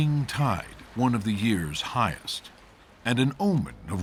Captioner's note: splashing